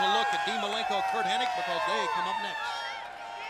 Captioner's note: crowd cheering